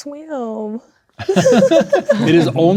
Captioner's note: players laughing